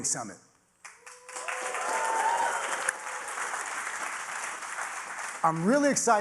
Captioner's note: audience applauding; audience cheering